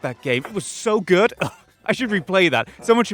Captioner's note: buffoonish guffaw